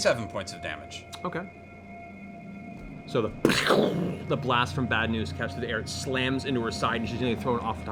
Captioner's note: gunshot noise